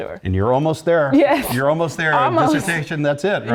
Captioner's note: laugh